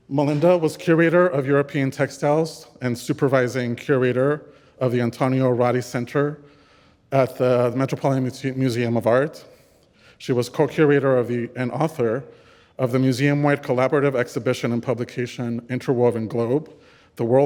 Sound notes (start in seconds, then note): none